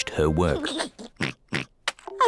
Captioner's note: giggles and oinks